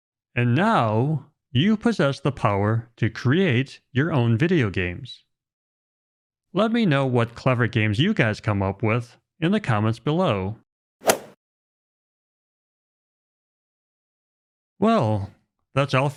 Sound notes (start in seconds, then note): 11.0 golf swing sound effect